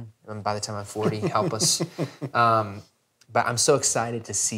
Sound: laughing

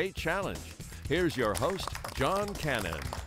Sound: applause

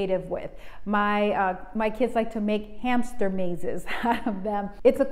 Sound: chuckles

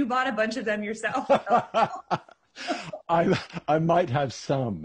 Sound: laughing

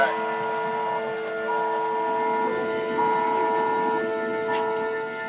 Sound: phone alert toning

